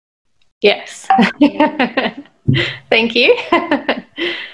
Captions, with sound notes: - Yes. (laughs) Thank you. (laughs)